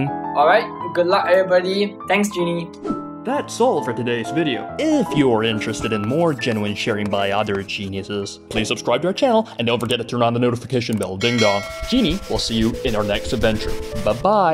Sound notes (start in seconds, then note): 11.2 ding dong